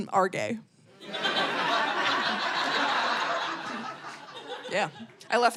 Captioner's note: audience laughing